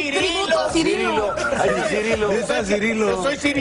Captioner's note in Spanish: risas